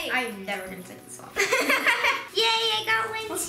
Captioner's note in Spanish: riendo